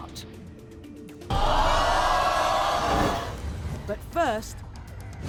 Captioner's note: crowd jeering